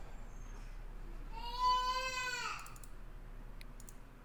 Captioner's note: baby crying